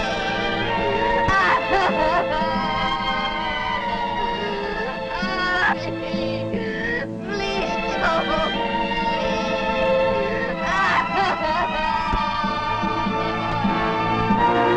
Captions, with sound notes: (sobbing) Tommy, please don't leave! (dramatic orchestra music)